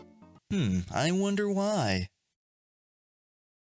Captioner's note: sarcastically